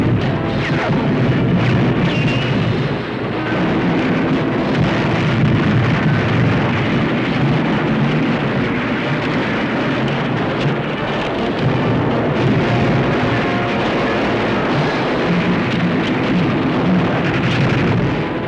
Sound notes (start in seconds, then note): 4.6 explosion